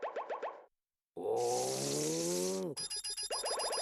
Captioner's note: grunting